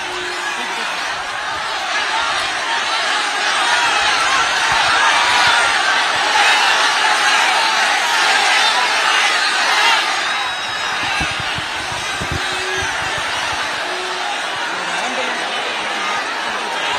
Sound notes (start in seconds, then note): 5.7 applause; 5.7 laughter